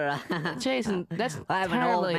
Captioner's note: laughs